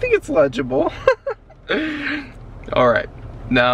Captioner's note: chuckles